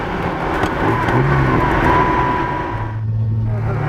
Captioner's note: double clutching and gear shift